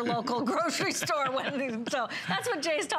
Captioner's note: laughter